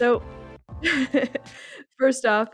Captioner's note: lady laughing